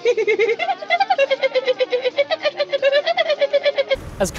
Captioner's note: continues giggling